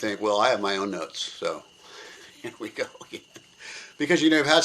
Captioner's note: laughs